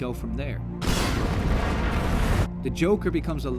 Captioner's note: booooom